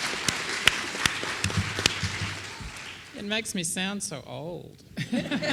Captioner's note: laughter